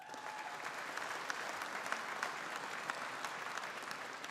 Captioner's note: audience applauding